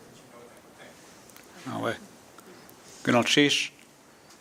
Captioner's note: speaking tlingit